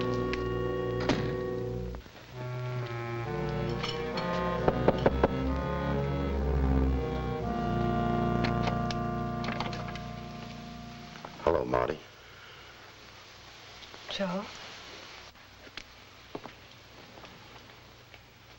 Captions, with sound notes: (door thuds shut) (knocking on door) - Hello, Marty. - Joe.